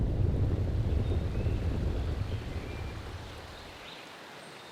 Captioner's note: birds chirping